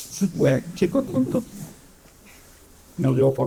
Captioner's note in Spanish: risas